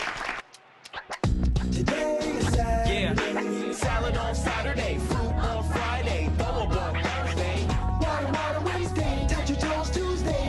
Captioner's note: applause